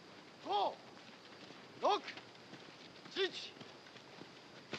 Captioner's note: shouting in Japanese